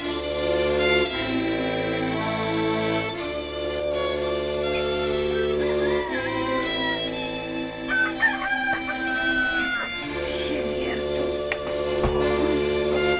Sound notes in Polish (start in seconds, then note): 7.6 pianie koguta